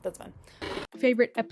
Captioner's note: TV noise